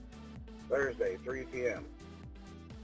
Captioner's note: male Voice